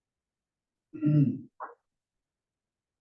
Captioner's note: cough